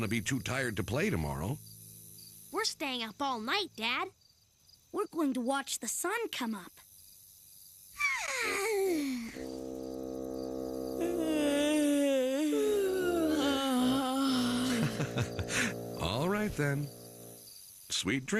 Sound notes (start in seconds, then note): 8.0 yawn; 10.9 yawn; 15.4 chuckles